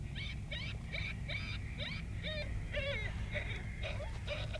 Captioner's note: whining of pup